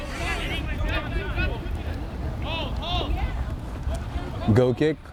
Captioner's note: players shouting